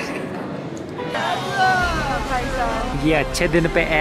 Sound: general chatter

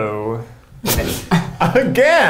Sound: laughing

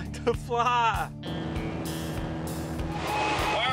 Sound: plane zooming along

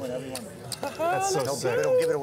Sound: exclaiming excitement

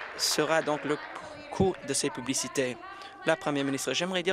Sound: applause

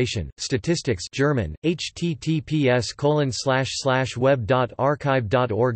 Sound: German

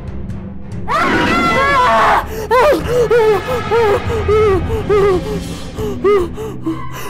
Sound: screams

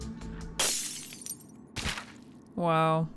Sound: glass shatters

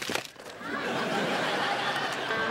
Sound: laughter

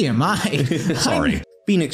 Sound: laughter

